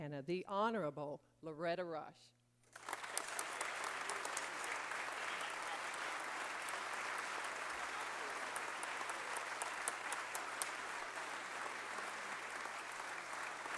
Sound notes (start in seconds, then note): 2.6 applause